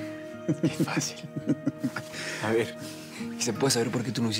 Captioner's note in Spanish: risas